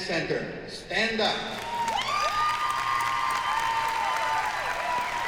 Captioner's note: applause